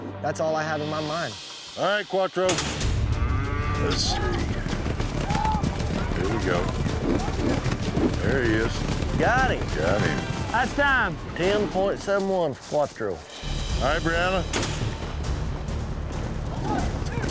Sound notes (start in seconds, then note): 3.0 cow mooing; 5.2 whooping, cheering; 14.5 chute opens